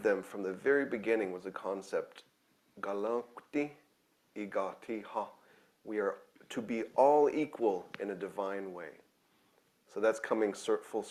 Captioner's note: speaking own language